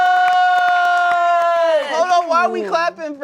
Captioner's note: cast claps